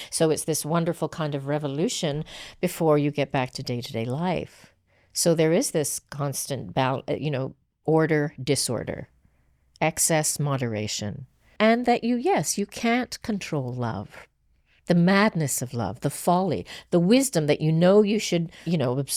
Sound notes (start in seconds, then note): none